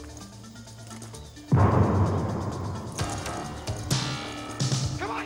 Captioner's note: explosion booming